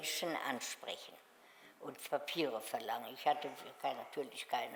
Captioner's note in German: none